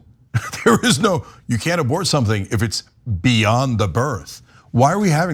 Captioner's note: laugh